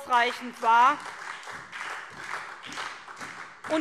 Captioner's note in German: Beifall SPD